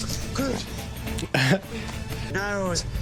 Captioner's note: small laugh